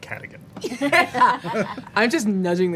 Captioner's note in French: rires